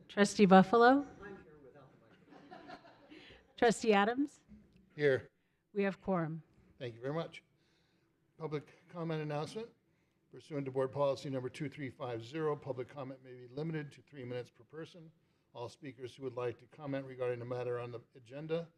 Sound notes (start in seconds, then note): 2.1 laughter